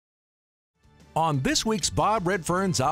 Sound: voiceover

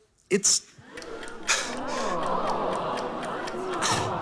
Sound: timer ticks; audience oohs

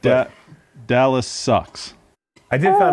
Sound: squawks

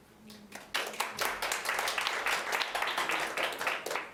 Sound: audience applauding

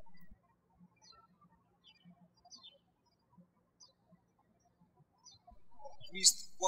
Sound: birds chirping

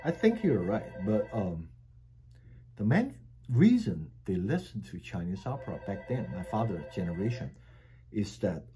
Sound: telephone ringing

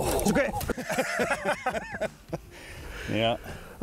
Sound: both laugh

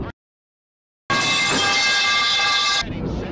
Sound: falling pipes sound plays

